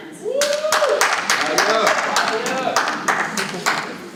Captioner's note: people cheering